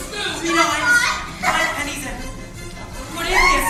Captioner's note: laughs